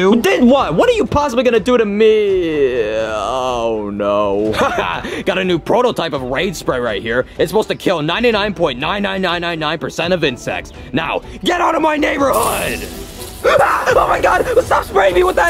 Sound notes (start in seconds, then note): 4.4 cop laughs; 12.3 spray hissing; 13.4 Mario screams